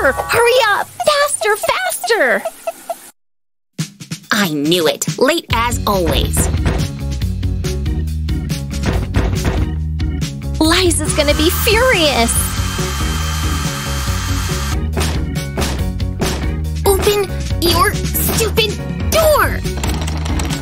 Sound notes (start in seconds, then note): none